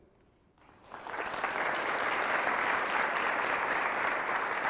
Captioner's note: audience applauding